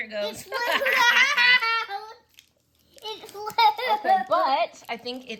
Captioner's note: laughs